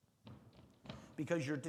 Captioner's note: heavy foot stomp thudding